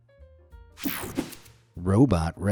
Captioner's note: screen whooshing